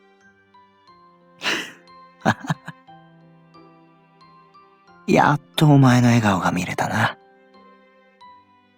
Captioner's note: chuckle